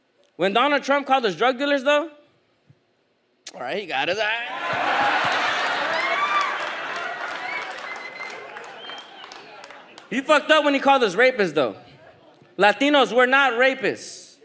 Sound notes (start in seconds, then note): 4.7 audience laughs